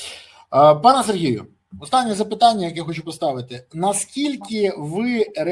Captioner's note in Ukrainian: сопіння